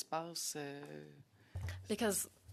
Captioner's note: speaking in French